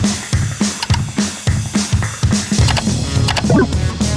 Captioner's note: clattering